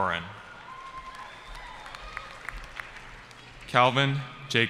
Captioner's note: cheering